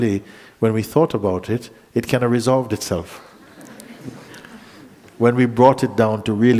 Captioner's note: laughter